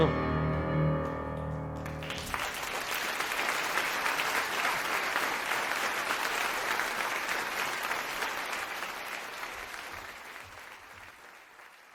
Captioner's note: music ends - applause